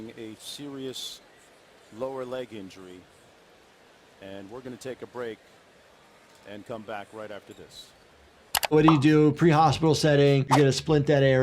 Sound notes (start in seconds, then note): 8.5 video clicks; 10.5 audio whooshes